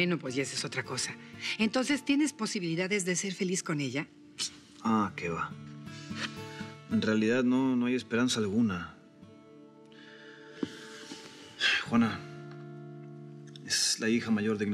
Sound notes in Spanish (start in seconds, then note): none